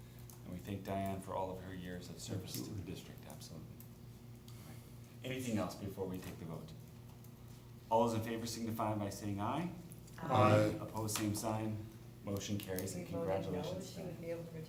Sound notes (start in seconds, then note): 8.1 chorus of ayes